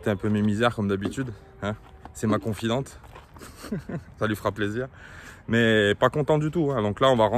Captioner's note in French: rires